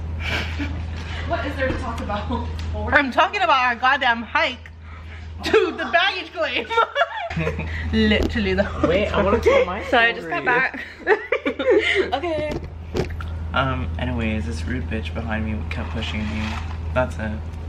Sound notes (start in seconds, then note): 0.2 laughs; 5.4 laughs; 10.7 laughter